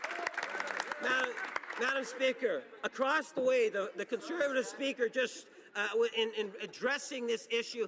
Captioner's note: cheering and Applause